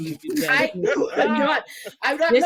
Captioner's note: laughing